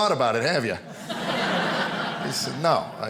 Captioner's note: audience laughing